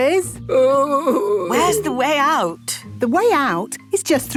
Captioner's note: groaning